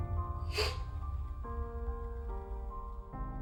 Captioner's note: sniffing